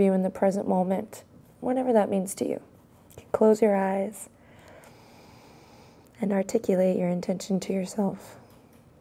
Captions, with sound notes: in the present moment, whatever that means to you. Close your eyes (inhales) and articulate your intention to yourself.